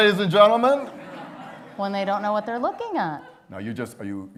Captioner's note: laughter